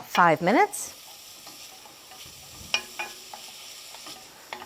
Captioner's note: scallions sizzling